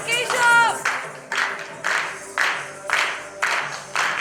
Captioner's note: clapping to beat